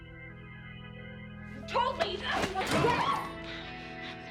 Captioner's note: Rowena screams